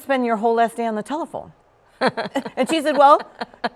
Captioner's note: laughs